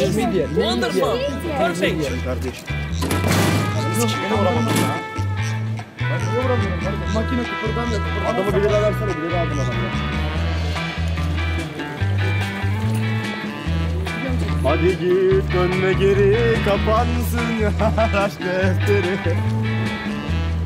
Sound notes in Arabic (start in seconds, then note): 3.0 ضربة قوية; 5.7 بالتركية; 15.0 غناء بالتركية